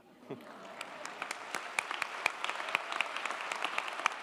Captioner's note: audience applauding